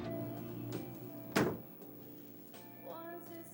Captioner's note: soul music; door shutting